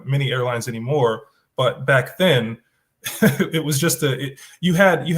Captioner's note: chuckles